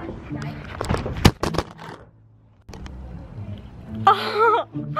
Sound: camera thudding

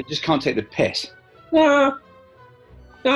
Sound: accented

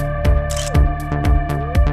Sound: photo click

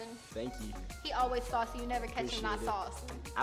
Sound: lisps

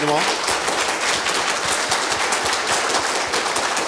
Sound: applause

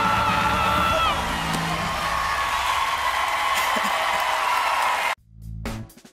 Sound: cheers and applause

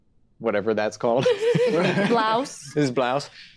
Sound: laughing

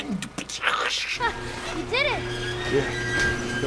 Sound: generator hums; gate creaks slowly

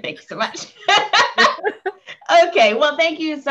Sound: laughing

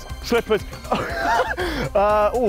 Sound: laughs

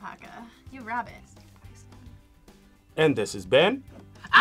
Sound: whispers

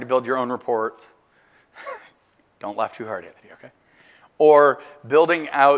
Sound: laugh

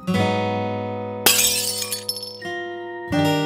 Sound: glass breaking

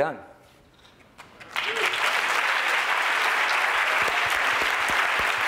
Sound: applause

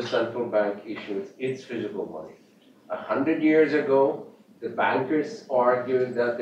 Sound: off mic

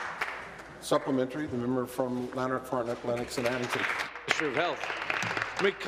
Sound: applause

